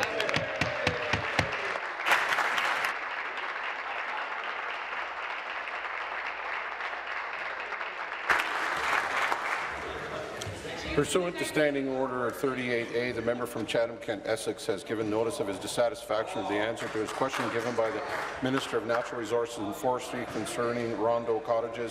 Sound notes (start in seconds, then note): 4.1 applause